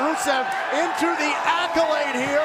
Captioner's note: cheers & applause